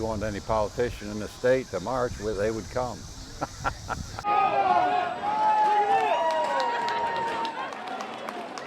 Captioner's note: marching and cheering